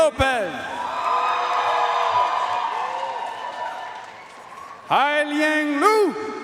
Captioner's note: audience cheering and applauding